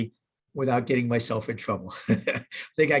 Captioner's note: chuckles